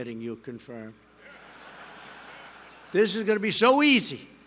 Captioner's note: laughter